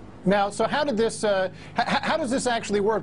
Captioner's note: voiceover